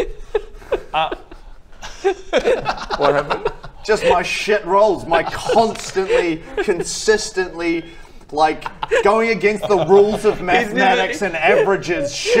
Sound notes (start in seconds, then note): 0.0 weeping with laughter; 2.0 giggles